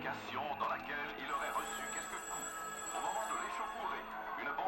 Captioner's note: phone and doorbell